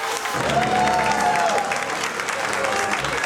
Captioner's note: all applause